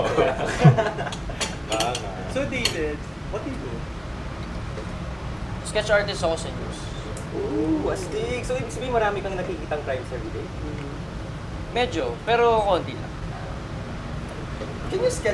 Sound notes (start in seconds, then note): 0.0 snickers